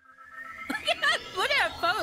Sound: laughing

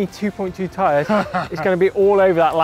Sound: laughing

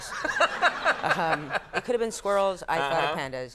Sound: Conan and audience laughing

